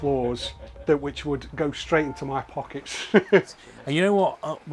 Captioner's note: laughs